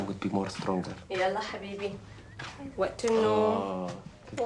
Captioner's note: speaking Arabic